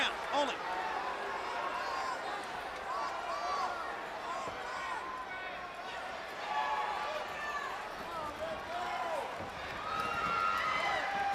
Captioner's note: crowd chatter